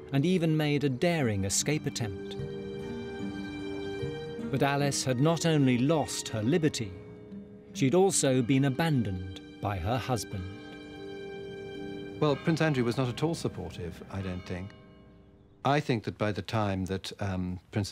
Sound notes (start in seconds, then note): 10.5 bell tolling